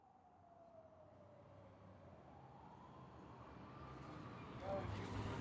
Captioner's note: distant siren alarming